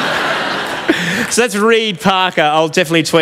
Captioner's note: laughter